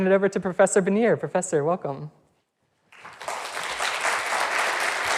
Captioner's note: audience applauds